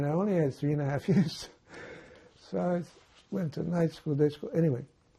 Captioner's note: laughing